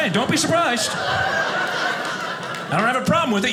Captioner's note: audience laughing